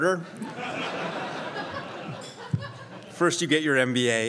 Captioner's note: crowd laughs